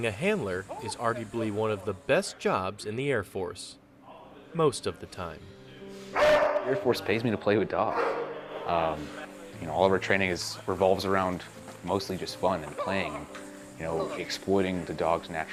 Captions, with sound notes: one of the best jobs in the Air Force. Most of the time. (gentle piano music) (dog barks) - The Air Force pays me to play with dogs. (dog barks) All of our training revolves around mostly just fun and playing. You know, exploiting the dog's natural drive. (laughing)